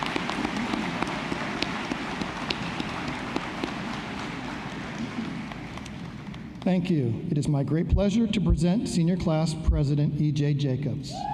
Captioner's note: applause